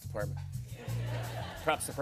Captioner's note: laughter